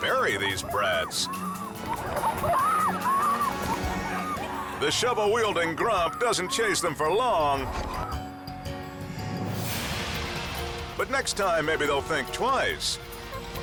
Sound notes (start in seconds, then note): 1.8 kids screaming; 13.4 horn honks